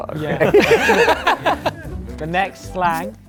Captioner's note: laughing